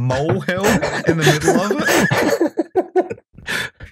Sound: laughter

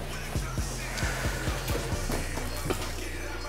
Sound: sighs

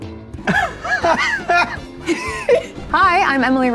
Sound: laughing

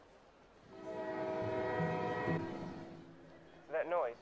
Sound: train whistles

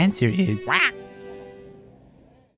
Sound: annoyed squawk

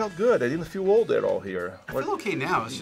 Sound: React laughs

